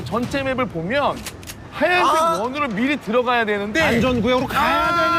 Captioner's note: argh!